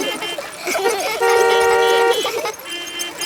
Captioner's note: laughter; beeping